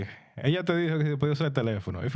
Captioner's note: speaking In Foreign Language